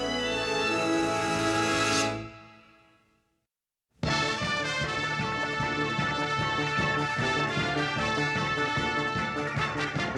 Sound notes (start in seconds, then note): none